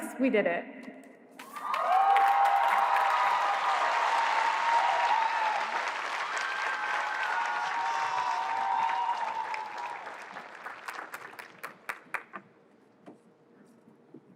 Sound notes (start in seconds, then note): 1.9 cheering